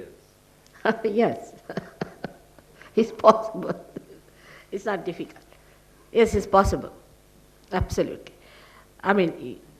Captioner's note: shri mataji laughs